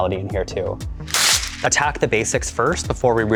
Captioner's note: paper tearing